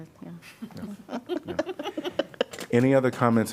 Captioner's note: laughter